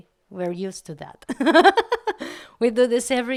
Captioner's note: laugh